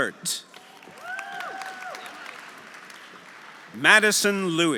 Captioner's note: audience applauding; audience cheering